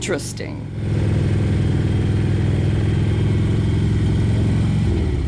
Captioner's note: motorcycle engine running